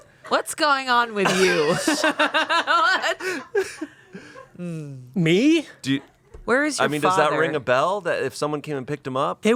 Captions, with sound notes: What's going on with you? (everyone laughs) - Me? - Where is your father? - I mean, does that ring a bell? If someone came and picked him up?